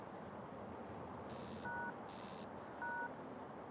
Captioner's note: electronic beeps